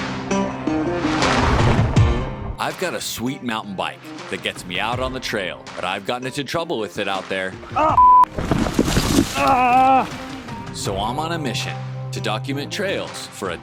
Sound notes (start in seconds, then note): 0.0 energetic guitar music; 8.0 beeps; 8.3 crinkling sound; 9.3 person groaning